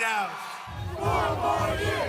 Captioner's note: cheering and applause